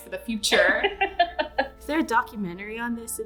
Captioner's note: laughter